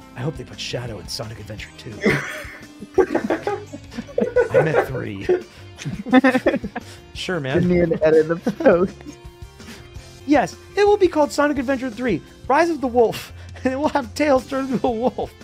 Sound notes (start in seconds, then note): 2.0 erarg laughs; 5.8 laughs